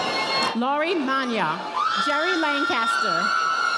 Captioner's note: audience applauding